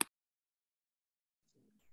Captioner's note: mouse clicking